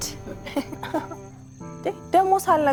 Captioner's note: laughing